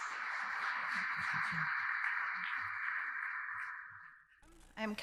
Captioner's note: audience applauding